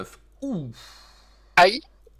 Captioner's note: sigh